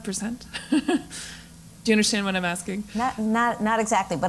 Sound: laugh

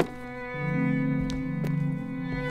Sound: boot stomping

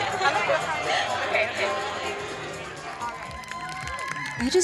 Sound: all cheer

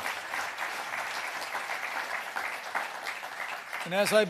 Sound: applause

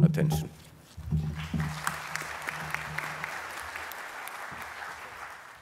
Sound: applause

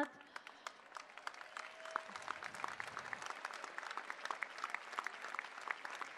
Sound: applause

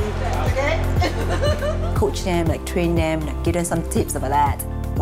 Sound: laugh

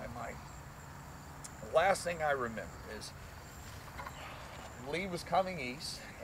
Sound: sigh

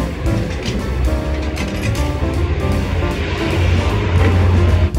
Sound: machine rumbling

